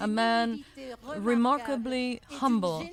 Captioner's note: speaking French